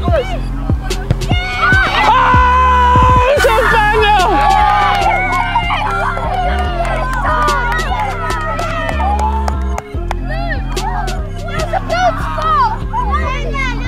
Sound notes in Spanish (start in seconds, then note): 1.7 vítores de la multitud